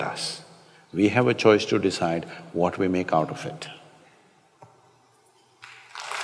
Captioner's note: applause